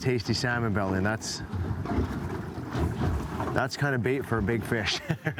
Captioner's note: laughs